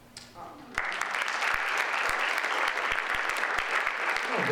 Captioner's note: audience applauds